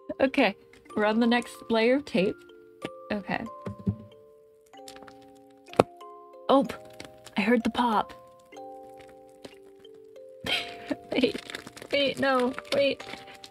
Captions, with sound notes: Okay. We're on the next layer of tape. Okay. [Unpacking Sound] Oop! I heard the pop! [laugh] Wait. Wait, no... wait.